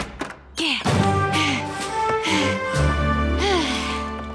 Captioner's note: door opens; panting